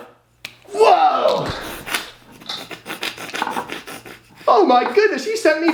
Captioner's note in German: lacht